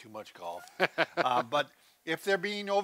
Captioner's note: laughs